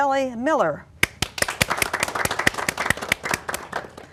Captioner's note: applause